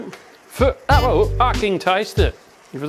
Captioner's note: beatboxing